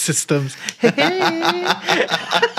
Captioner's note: laughter